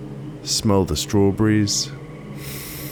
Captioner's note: inhale